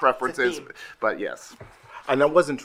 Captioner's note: group laughing